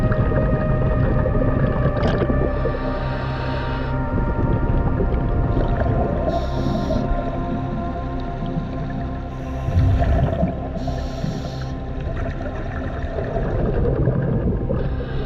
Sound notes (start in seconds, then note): 2.2 water bubbling; 6.4 dramatic music